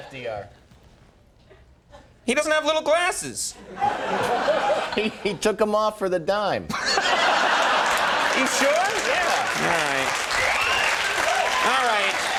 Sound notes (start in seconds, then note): 6.7 Conan laughing; 6.7 audience laughing; 10.6 audience applauding